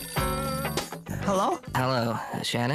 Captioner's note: phone ringing